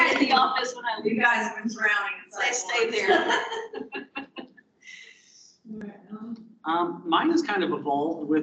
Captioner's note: multiple speakers laughing and overlapping